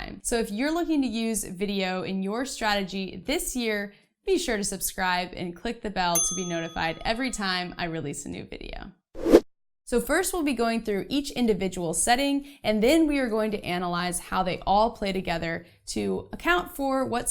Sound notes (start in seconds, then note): 9.2 air whooshing